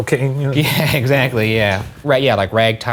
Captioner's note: laughing